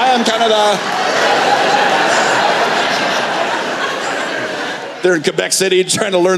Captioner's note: laughter